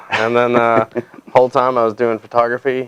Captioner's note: laughing